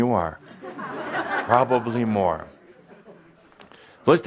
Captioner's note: laughter